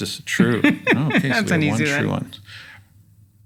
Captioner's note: laugh